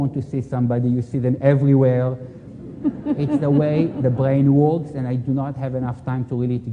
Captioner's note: laughter